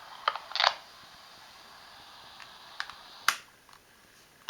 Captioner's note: click from turning the dictaphone off; rewinding sounds lol